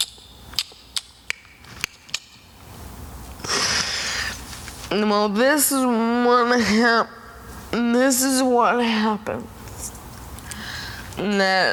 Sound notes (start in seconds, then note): 0.5 tongue clicks; 3.5 Selma takes a breath